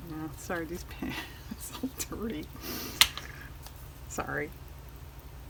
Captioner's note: laughs